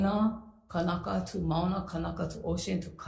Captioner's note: speaks foreign language